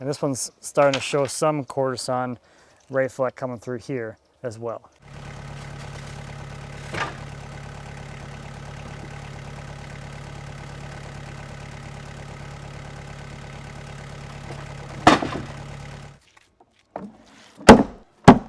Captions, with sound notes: And this one's starting to show some quarter-sawn ray fleck coming through here as well. (engine running calmly) (wood hitting forks) (wood slamming down)